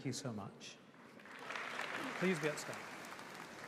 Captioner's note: audience applauding